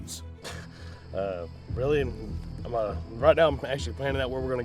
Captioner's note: laughs